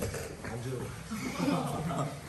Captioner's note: students laugh